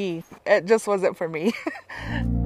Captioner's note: laughs